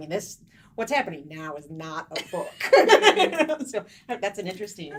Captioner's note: pleasant laughing